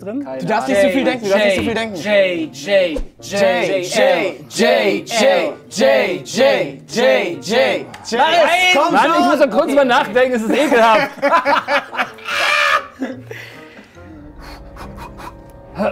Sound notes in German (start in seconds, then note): 12.1 Lachen, krächzender Laut